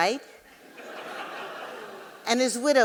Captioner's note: audience laughing